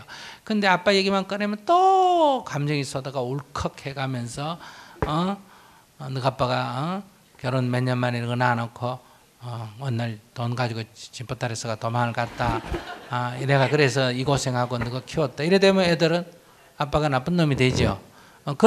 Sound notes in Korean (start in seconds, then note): 12.3 청중 웃음